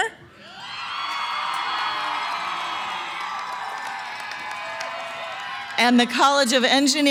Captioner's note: cheering & applause